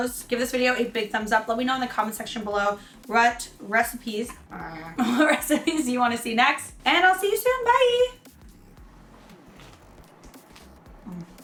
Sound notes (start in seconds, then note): 8.6 upbeat music; 8.9 soft crunching